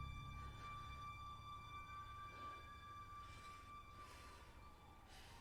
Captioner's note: sirens wailing in distance